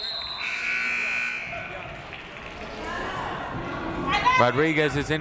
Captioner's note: siren buzzing